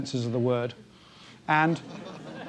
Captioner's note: laugh